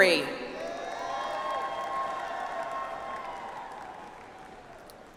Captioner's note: audience applauds